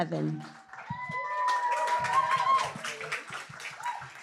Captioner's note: applause, cheering